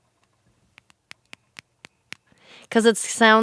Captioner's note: clicking sounds